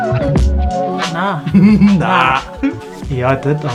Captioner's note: laughs